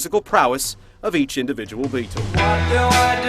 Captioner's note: liverpool accent